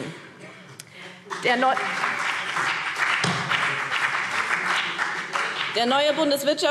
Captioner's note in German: Beifall BÜNDNIS 90/DIE GRÜNEN und vereinzelt CDU